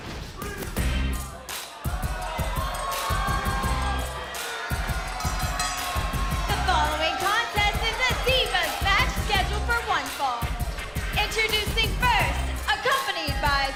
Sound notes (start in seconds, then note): 5.1 bell ringing; 5.5 crowd cheering